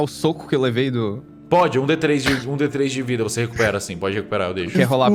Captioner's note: laugh